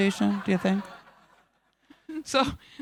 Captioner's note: audience laughing